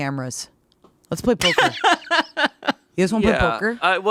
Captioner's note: laughing